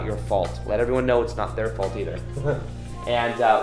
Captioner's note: chuckles